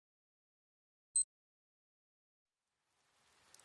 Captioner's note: watch beeps